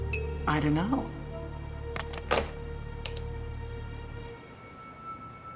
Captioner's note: hangs up telephone